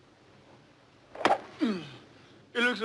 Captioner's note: golf club connects; groans